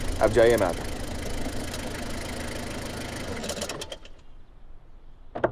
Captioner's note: Engine